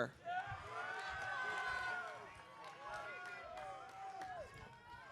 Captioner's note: audience cheering